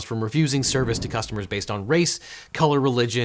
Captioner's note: air whooshing